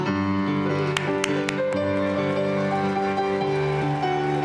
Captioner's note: applause